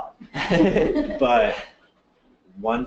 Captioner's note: laughter